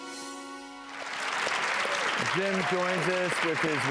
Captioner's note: audience applauds